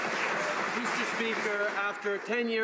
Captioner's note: some Applause